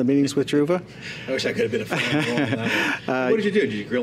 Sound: chattering

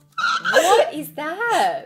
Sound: squeals

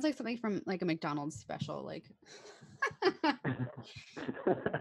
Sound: laughs

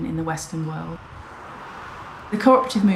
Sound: moving cars

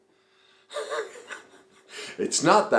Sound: laughing

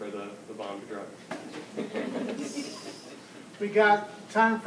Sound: laughter

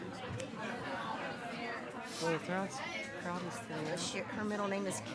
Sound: attendees chattering

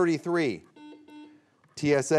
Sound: buzzer beeping

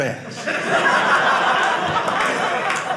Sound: audience laughing

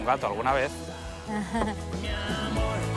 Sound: laugh

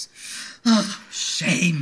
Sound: sigh

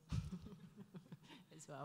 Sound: audience chuckles

